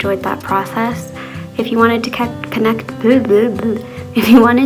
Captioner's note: laughs